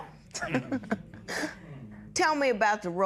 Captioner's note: chuckles